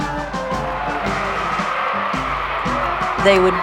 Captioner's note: crowd Cheering